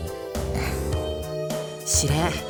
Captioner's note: sigh